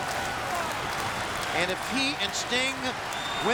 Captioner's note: applause